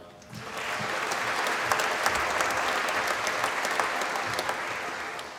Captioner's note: applause